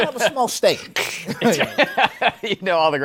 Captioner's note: laughs